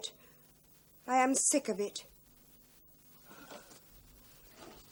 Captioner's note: sighs